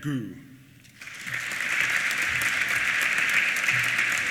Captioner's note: applause